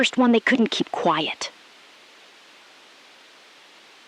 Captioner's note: SILENCE — 3 sec